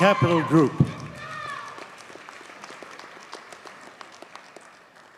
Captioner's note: audience cheers and applauds